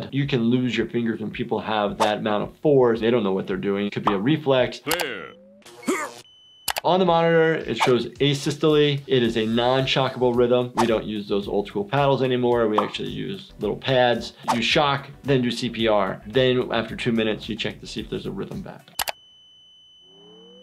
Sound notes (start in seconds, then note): 5.4 electricity buzzing; 5.8 grunts; 19.7 machine ringing